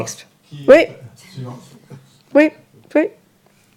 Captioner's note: speaking in French